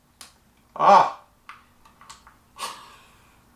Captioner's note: groans